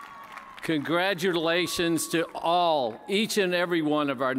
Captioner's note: cheers and applause